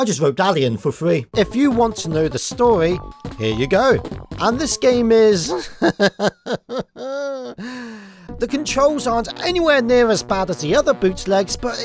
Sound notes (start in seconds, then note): 5.5 laughs hesitantly